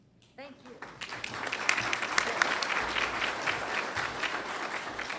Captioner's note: applause